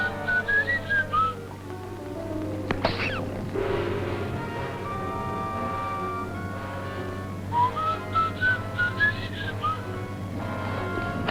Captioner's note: whistling